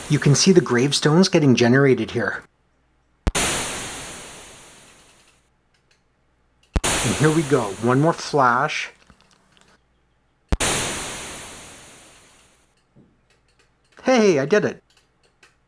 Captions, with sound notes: You can see the gravestones getting generated here. And here we go. One more flash… [thunder clap] Hey, I did it!